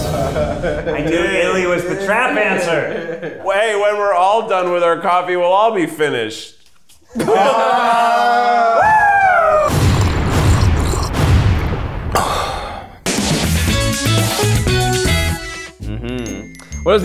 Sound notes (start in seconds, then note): 7.1 all exclaim; 7.2 whoops excitedly; 9.7 slurping sounds; 11.1 scores thud dramatically; 13.4 bright guitar transition